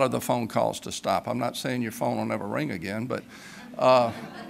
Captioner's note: laughter